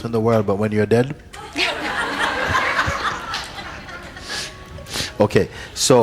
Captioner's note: laughter